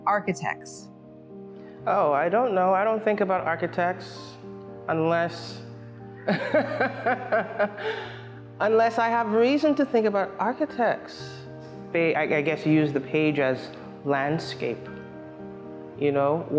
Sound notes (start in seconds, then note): 6.2 laughs